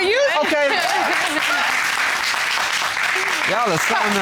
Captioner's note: applause